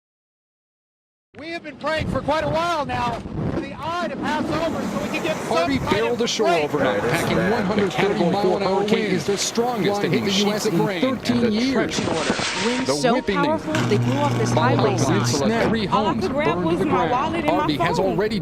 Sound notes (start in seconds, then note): 1.5 shouting